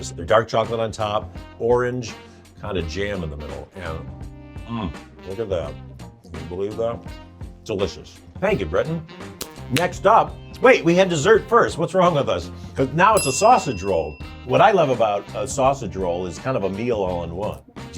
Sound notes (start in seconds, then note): 9.4 hands tapping; 13.2 bell dings